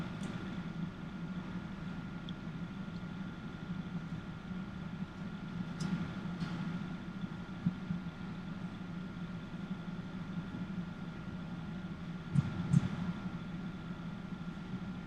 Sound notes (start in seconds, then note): 12.3 heart beats